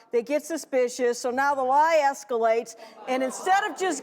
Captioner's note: crowd chatter